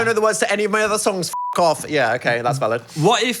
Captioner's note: beep